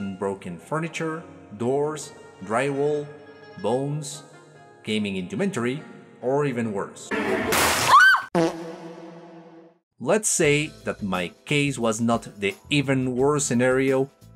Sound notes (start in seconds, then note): 7.8 scream; 8.3 fart echoes